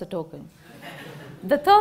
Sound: laughter

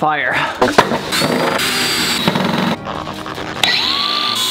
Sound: machine noises

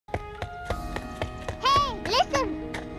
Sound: foot steps; fantastical music

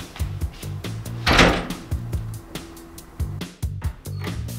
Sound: door closes

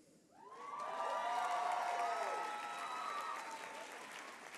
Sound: applause

